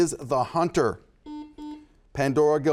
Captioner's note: buzzer buzzes